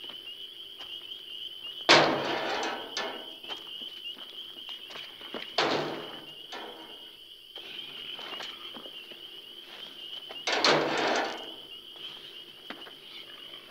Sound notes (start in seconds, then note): 1.9 metal clanking